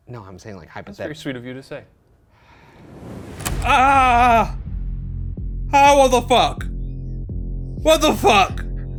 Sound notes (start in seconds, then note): 3.0 soft, ominous music; 3.6 screams